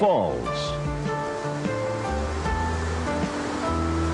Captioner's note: water rushing